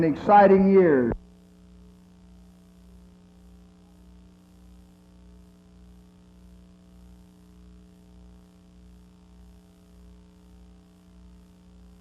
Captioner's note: silence